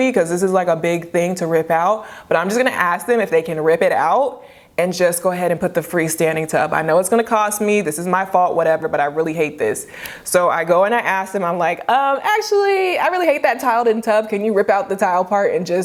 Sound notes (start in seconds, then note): none